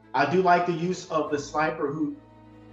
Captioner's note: none